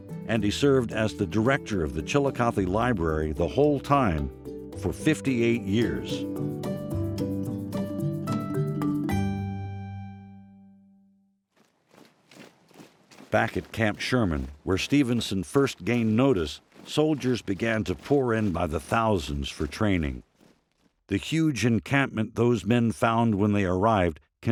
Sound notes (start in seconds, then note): 6.3 gentle music; 11.5 marching footsteps thumping